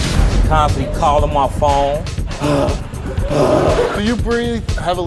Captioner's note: pants